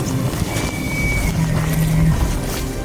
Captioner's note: elk bugle